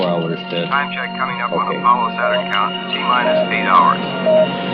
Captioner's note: radio communication; Ambient sounds of control room and voices of NASA engineers